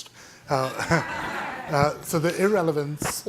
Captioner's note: audience laughing